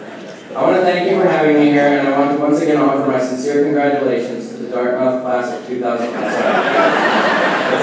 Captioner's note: laughing